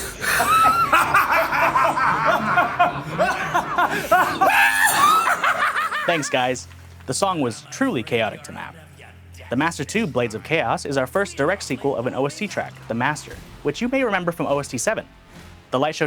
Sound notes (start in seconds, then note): 0.0 villainous laughing; 3.3 maniacal laughing